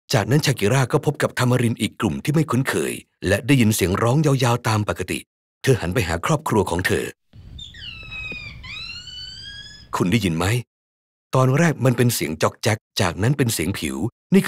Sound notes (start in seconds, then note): 7.4 monkey noise